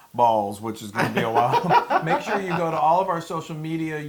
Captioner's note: laugh